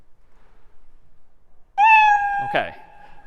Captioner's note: میو زدن